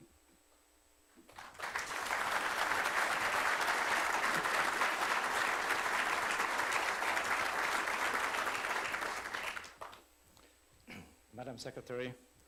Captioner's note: applause